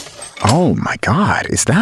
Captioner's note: smash